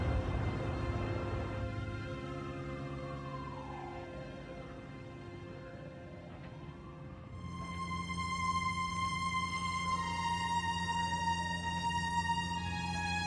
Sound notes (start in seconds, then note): 0.5 siren wails